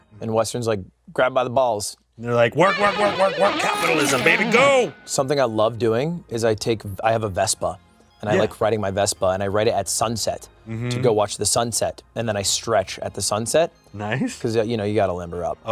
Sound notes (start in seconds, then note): 2.6 echoes; 3.6 voiced pitched low